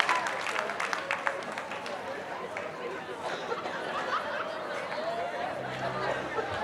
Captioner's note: background chatter